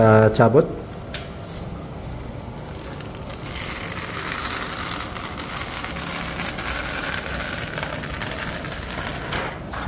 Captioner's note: PET film noise